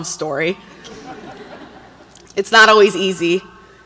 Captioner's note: audience laughs